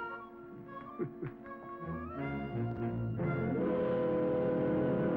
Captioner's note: laughs; dramatic music